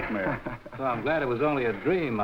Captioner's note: Gorman chuckling